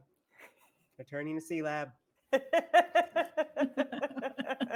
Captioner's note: laughing